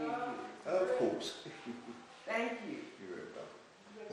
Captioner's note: laughs